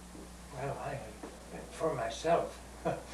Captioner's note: laughter